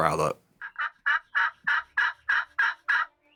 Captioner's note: turkey calling